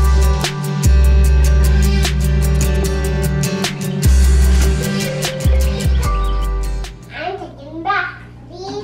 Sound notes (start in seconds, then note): 4.2 birds chirping